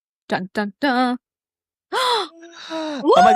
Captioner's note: gasps